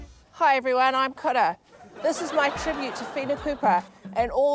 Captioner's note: laughter